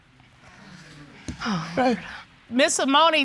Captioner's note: sighs